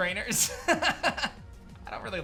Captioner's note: laughs